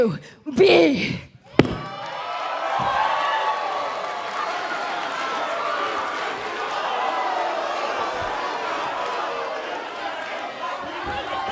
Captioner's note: crowd cheering